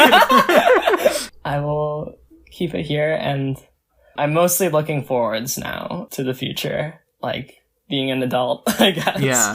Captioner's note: both laugh; laughs